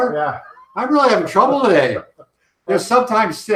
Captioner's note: laughs